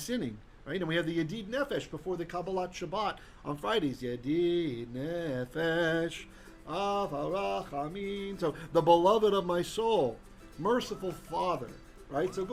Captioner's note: Hebrew